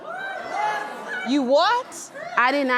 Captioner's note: crowd gasp